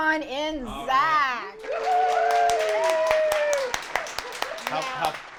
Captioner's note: everyone cheering